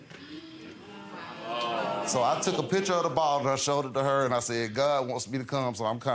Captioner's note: audience stirs